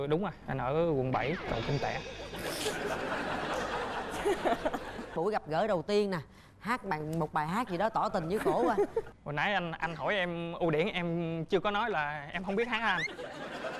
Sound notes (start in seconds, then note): 1.9 audience laughing